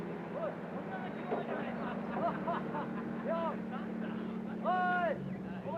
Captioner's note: Japanese soldiers chattering